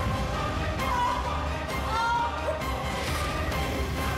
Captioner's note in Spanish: gritos